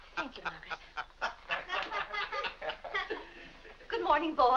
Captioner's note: boys and Mr. Day laughing